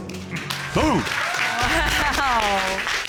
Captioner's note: chuckles